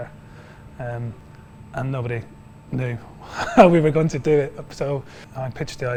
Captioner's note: chuckles